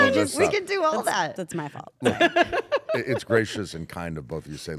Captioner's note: laugh